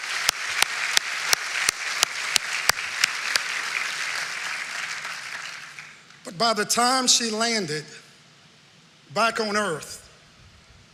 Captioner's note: cheering and applause